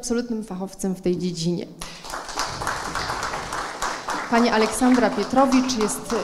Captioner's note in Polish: oklaski